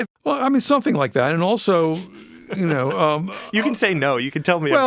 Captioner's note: laughs